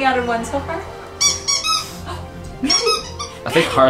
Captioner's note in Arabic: لعبة الكلب صرير